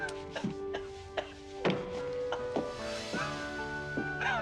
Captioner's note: coughing